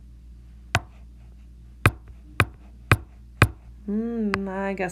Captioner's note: tapping sound